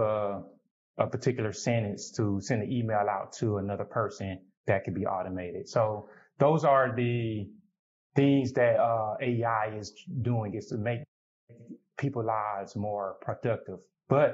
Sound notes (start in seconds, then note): none